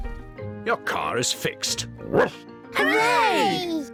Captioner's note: barks